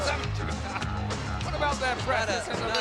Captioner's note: chuckling